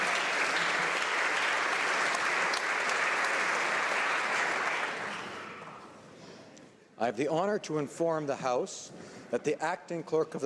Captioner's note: some Applause